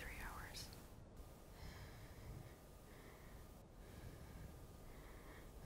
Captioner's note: Ellie breathes uneasily